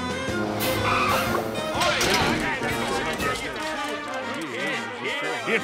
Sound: chattering

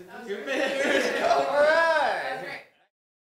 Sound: guys laughs

